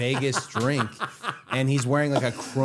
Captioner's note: Matt laughing